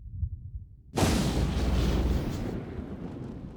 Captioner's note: crackling, Rumbling